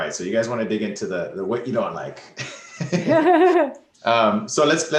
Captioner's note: laughs